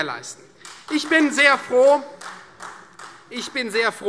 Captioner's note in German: Beifall Freie Demokraten